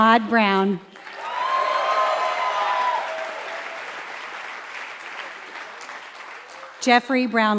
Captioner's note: applause